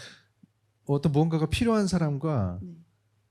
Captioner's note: speaking korean